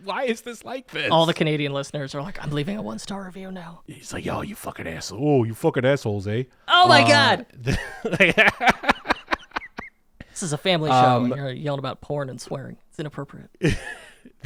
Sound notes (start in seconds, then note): 5.6 imitates Canadian accent; 7.6 laughing